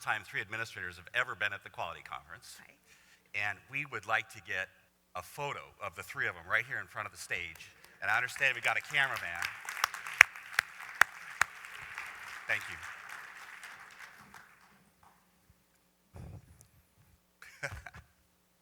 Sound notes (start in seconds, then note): 15.8 applause; 17.4 laughs